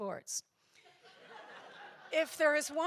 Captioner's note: audience laughs